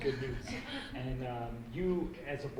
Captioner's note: laughing